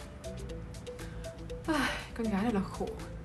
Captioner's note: sighs